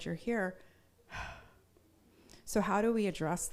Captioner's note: exhaling